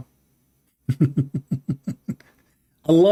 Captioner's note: Ketawa